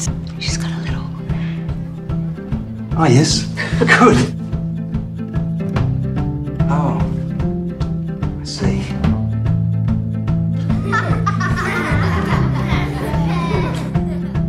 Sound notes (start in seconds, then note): 10.6 children laughing